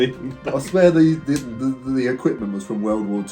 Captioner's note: laughs